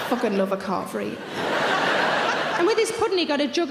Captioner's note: audience laughing